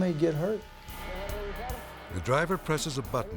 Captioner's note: speaking in Spanish